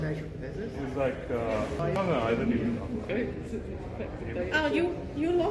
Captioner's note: talking in the background